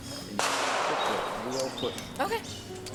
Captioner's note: gun shot